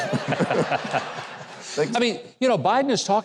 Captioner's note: all laughs